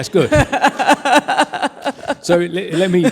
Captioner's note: laughs